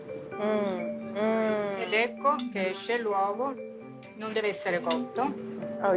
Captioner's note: speaking Italian